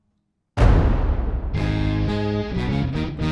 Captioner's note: banging; upbeat music